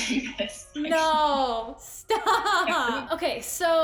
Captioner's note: laughter